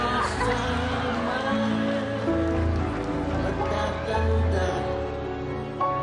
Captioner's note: crowd chuckling; crowd gushing